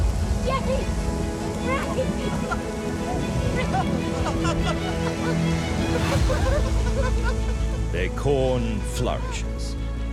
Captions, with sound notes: James! James! [laughing and crying] [both laughing] Their corn flourishes.